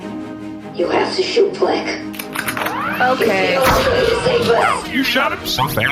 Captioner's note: racks rifle…